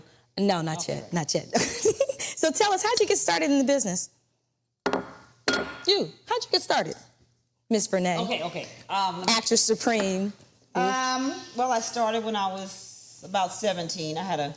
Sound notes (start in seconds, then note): 1.9 laughs; 5.4 bowl clattering